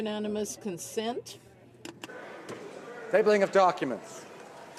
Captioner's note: some Applause